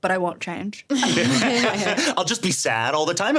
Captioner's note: everyone laughing